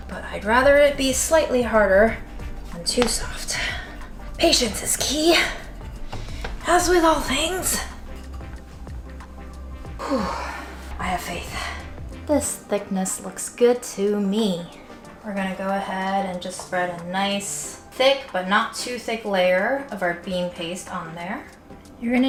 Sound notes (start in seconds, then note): 9.9 exhales